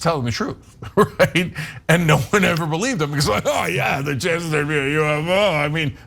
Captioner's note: laugh